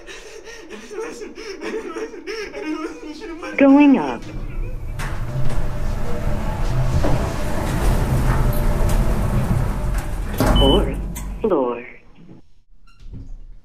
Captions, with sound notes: *Crying* I didn't listen! I didn't listen! *Crying* I didn't listen! I should have listened! *Elevator Voice* "Going Up" *Elevator Voice* "Fourth Floor"